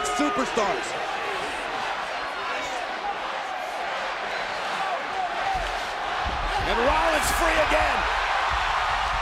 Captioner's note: applause